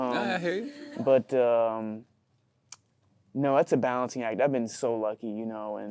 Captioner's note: clicks tongue